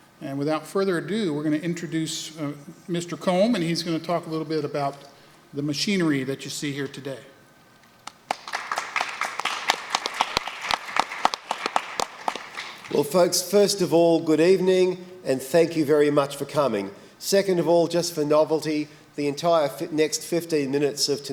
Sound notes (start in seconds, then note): 8.0 applause